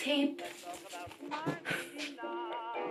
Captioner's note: laughs